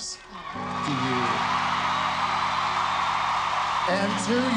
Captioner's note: crowd cheering